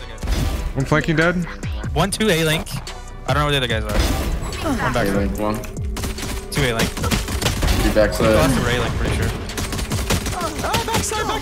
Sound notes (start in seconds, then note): 7.9 gun shots; 10.4 guns firing